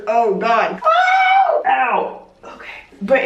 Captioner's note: screaming